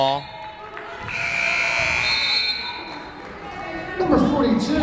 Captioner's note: buzzer blaring